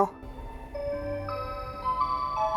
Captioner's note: clock jingle